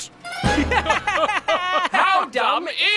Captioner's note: laughing